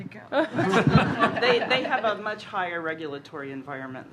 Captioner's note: laughter